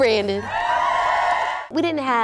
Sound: cheering

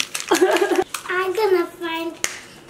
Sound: laughing

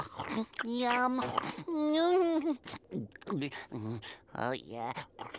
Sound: moaning; groaning

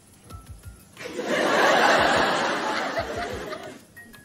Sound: laughter

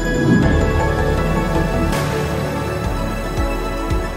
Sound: bright instrumental music; rocket zooms

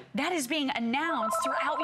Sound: electronic voice

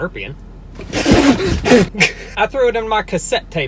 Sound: spits

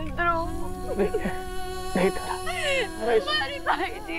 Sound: sobbing

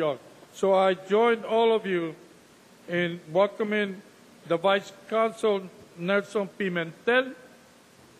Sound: speaking Spanish

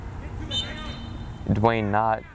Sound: whistle blows

